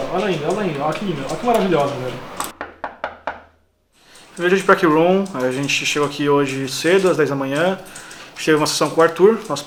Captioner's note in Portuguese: batida na porta